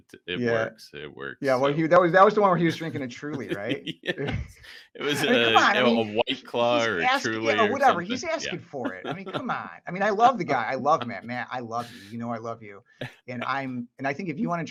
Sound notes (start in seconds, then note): 2.5 laughs